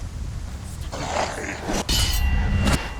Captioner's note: snarls